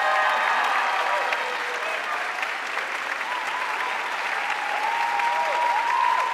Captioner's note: audience cheering and applauding